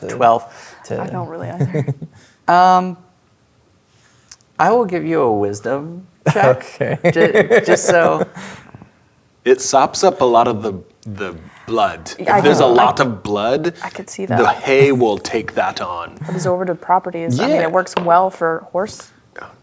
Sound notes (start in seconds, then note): 6.3 laughing